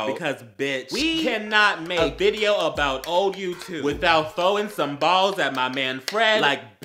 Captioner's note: clap